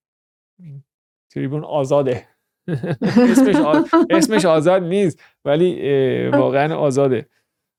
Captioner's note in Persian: خنده